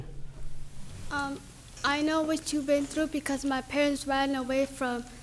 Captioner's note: young girl's voice off screen